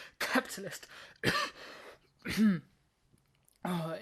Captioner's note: coughing; more coughing